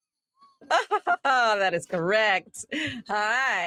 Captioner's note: laughs